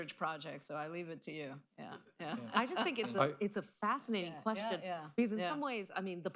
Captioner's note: laughter